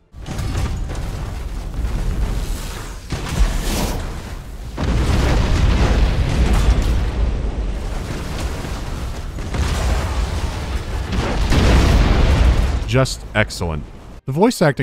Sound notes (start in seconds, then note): 4.7 thumping shots and booming explosions